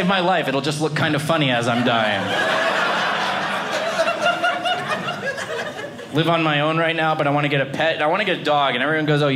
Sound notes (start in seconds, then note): 1.7 audience laughing